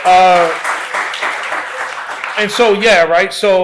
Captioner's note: applause